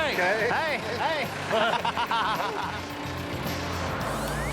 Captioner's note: laughing